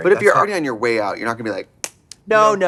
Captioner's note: hand tapping arm veins